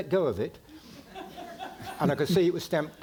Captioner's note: audience laughing